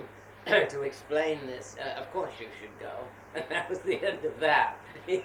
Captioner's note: laughs